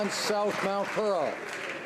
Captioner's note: some Applause